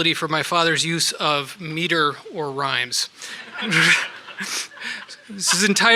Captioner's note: audience laughs